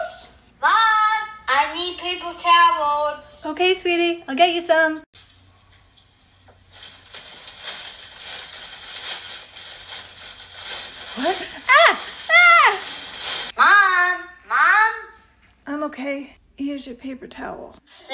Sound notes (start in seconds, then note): 5.1 noise of getting paper towel out of bag